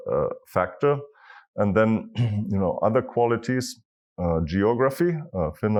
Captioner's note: cough